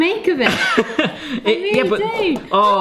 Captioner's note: laughs; exclaim